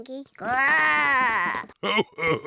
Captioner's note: oinks; growls; chuckles